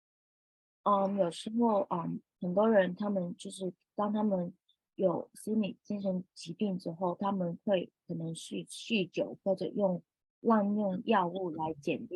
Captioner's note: speaking chinese